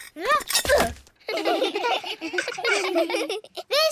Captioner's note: all giggle